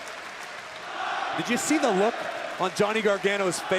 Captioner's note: crowd cheering